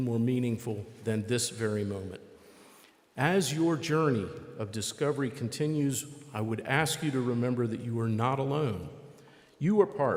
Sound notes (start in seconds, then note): none